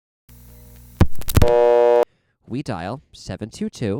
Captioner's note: loud buzz